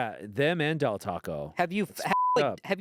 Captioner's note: beep